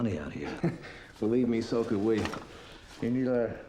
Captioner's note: chuckling